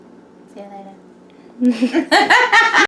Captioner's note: laughs